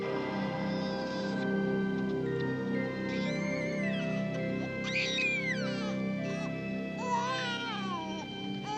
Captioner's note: baby crying, ominous music